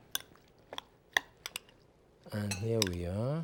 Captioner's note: spoon clunking